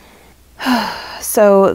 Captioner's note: heavy sigh